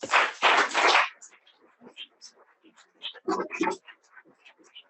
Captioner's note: audience applauding